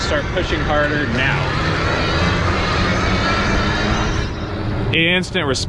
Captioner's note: wheels whirring